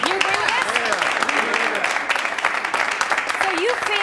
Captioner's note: applause